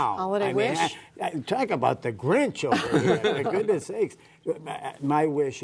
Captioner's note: laughter